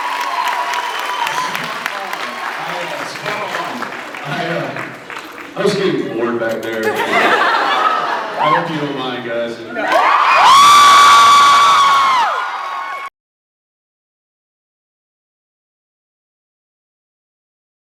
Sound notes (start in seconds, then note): 0.0 cheers, applauds; 3.1 applauds; 4.2 laughing; 6.6 laughs; 9.7 cheers